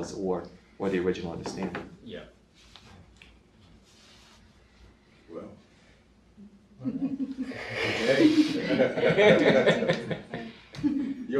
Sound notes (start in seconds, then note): 6.8 laughs; 8.8 audience laughing